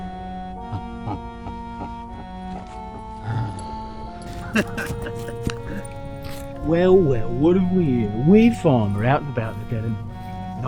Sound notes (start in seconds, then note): 0.8 distorted chuckling; 4.2 chuckling